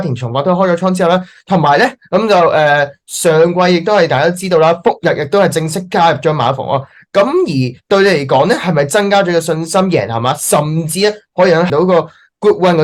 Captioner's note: Speaking in Cantonese